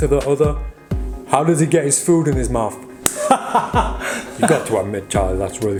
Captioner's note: chuckling